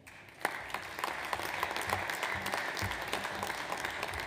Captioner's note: audience applauds